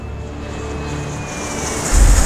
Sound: plane whooshes

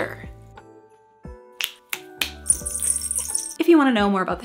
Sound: jingle bell ringing; finger snapping

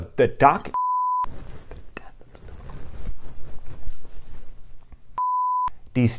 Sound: whispering to self: the death of the biblical author

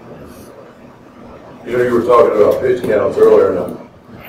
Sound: voiceover

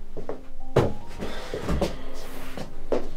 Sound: sighs

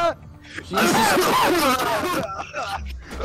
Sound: loud coughing

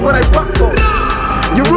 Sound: grrrrrrrrrrAH

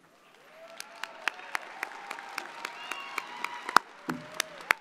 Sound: audience applauding

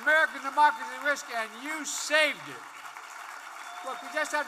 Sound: applause

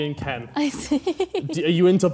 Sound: chuckling

